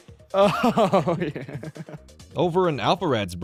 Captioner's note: laughing